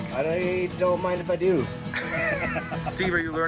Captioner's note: laughs